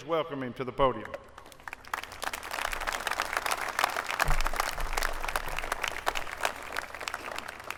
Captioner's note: applause